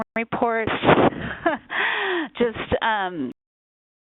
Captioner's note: laughing